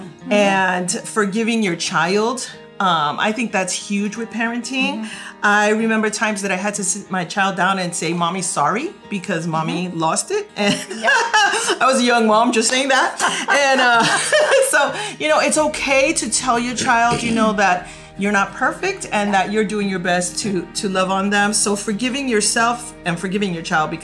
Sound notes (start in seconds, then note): 10.7 laughs; 12.9 laughing